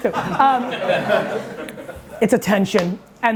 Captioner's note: audience laughing